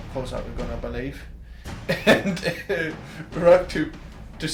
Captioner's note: chuckles